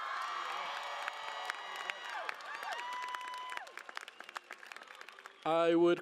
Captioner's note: cheering and Applause